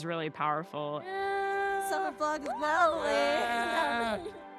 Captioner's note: excited chatter